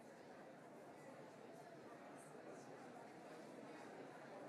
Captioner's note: audience chatter